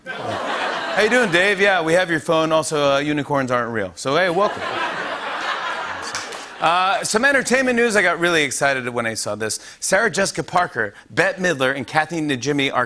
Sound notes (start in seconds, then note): 0.0 laughter; 4.3 laughter